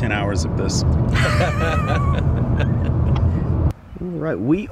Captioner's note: laughing